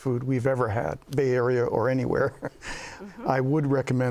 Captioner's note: laughs